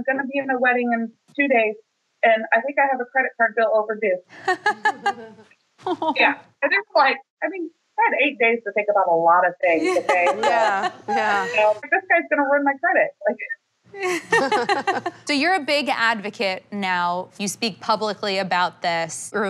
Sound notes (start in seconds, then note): 4.4 laughter; 9.8 laughs; 14.0 laughter; 14.0 laughs